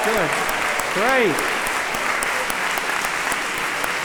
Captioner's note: cheers and applause